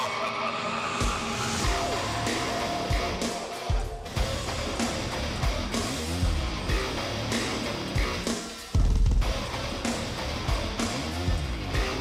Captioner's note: evil laughter